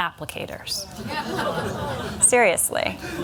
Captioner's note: laughter